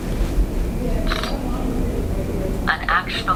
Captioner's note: camera Sound